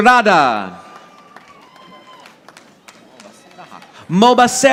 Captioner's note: audience applauding